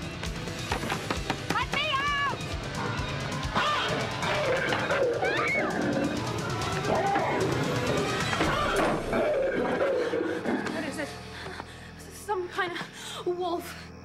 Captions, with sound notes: LET ME OUT! [ Screams ] [ Snarling ] WHAT IS IT? S-SOME KIND OF WOLF.